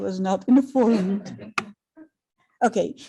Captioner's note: crowd laughing